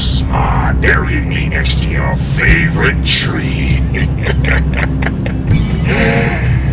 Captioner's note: cackling